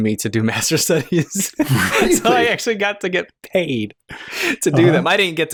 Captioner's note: laughter